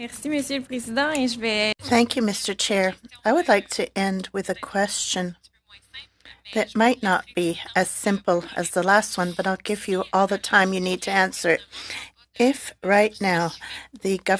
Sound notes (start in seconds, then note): 3.0 speaking French